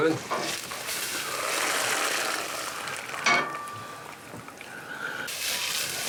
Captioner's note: water sizzles